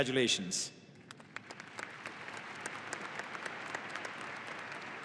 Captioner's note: audience applauding